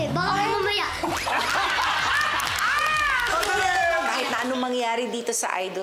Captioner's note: laughter, clapping